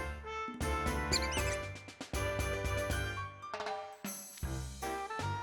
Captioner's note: squeaks